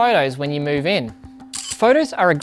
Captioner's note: camera shutter clicking